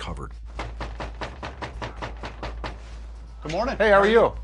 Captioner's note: knocking on door